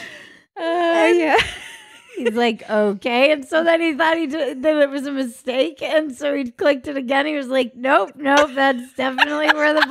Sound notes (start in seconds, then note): 1.4 laughing